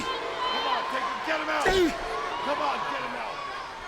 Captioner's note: Undertaker grunts